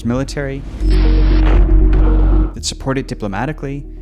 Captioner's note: missiles whooshing